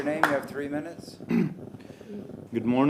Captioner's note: applause